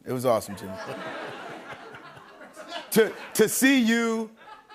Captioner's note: laughter